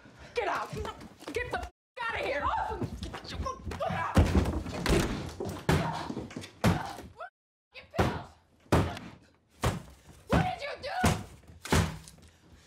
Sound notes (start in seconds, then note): 6.1 door slams; 7.1 kicks door; 10.6 kicks door